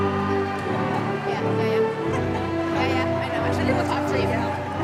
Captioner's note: chatter